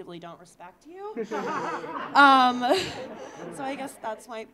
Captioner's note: audience laughing